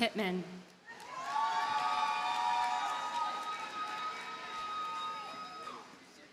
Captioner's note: audience cheers and applauds